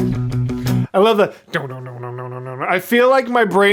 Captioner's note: guitar imitation